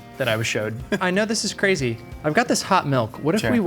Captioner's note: chuckling